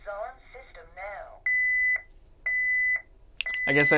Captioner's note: high-pitched beeping